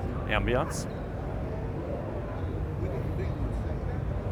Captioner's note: crowd chattering